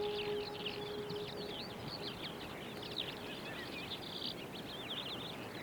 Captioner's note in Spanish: pajaros y viento